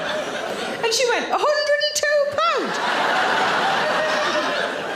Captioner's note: audience laughing